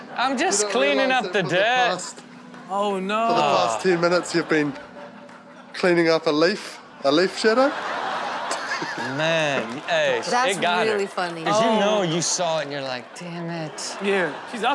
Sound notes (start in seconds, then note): 7.1 all laugh